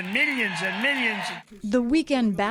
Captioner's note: cheering and applause